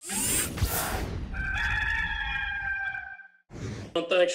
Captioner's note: cock crowing